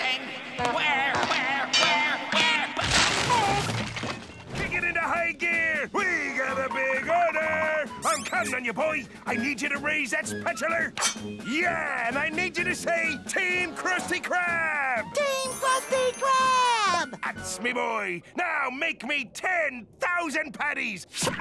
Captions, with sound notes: Where?! Where?! Where?! Where?! [thudding] Kick it into high gear! We got a big order! I'm counting on you, boy! I need you to raise that spatular! Yeah! And I need you to say, "Team Krusty Krab!" Team Krusty Krab! That's me boy! Now, make me 10,000 patties!